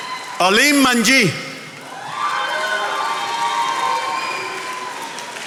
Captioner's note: attendees applauding